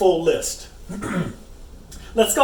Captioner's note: clears throat